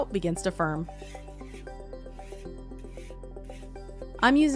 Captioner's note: scraper whooshing